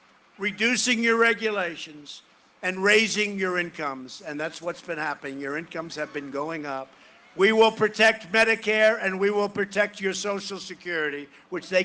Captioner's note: cheering and applause